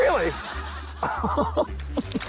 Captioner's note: laughs; laughter, applause